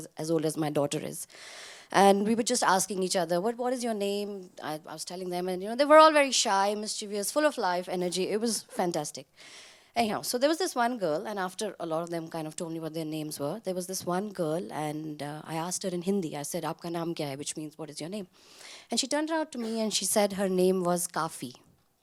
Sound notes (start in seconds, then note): 16.8 speaks in foreign language